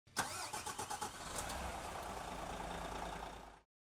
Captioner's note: engine starts up